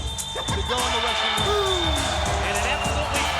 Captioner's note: Booker cheering